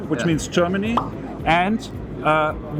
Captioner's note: pop